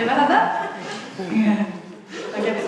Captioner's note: laughs; audience laughs